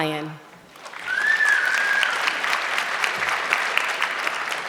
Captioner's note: audience clapping